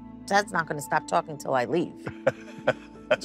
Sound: laughing

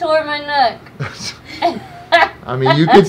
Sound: laughing

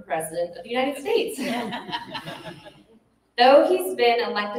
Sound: laughter

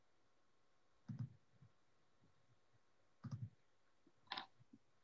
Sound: keyboard sounds

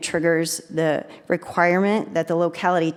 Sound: none

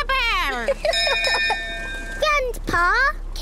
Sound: laughs; rings bell

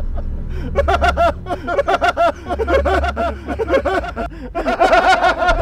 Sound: maniacal laughter echoes through the valley

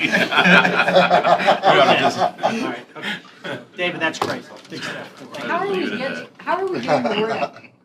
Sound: laughter

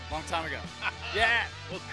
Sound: laughter

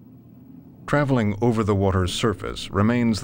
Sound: voiceover

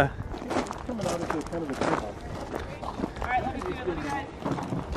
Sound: people chatting

